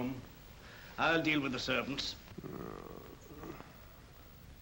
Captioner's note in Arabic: يتأوه